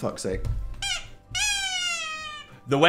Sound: horn squeaks

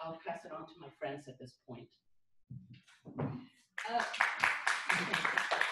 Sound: applause

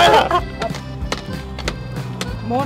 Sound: stomping noises

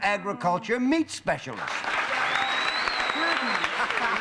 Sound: cheers and applause

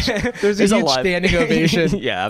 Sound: chuckles

